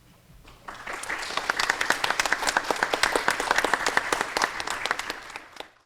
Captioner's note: applause